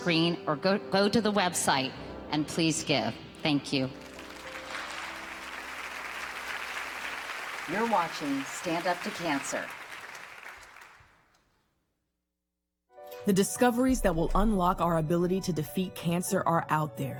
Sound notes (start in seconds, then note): 11.9 applause